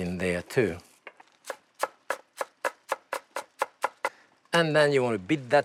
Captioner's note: chopping